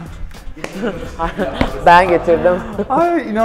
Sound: laughs

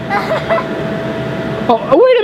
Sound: laughs

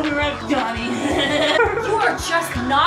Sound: laughs mockingly

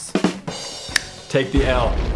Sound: ba dum Tss; snap

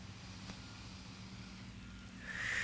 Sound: exhales

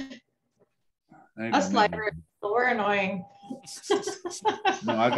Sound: laughing; laughs

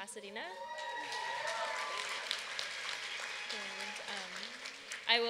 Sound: applause

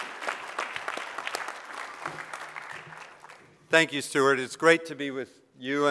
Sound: applause

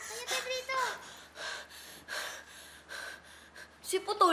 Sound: Pedrito panting

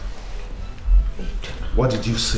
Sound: whispers

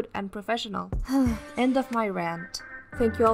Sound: sigh

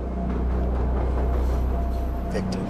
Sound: train clanking

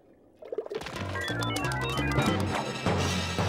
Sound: beeping

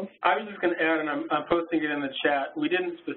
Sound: voiceover

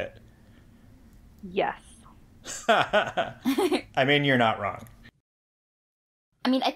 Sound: laugh

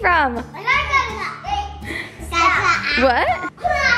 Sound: excited talking

